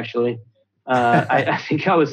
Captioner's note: laughs